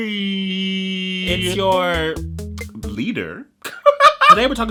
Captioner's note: laughs